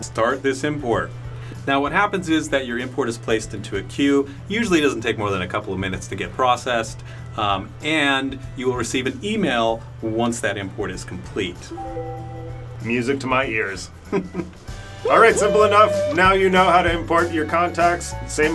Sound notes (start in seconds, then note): 11.7 chiming; 14.0 chuckles